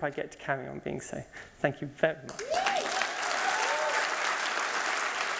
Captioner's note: cheering and applause